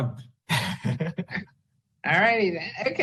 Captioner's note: board member laughs